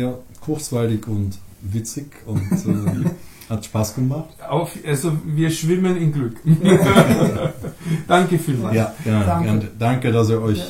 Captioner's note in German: lachen